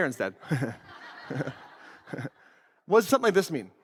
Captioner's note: audience laughs